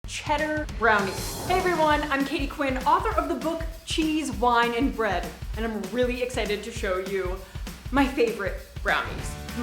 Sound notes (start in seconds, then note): 0.0 upbeat music begins; 0.9 air wooshing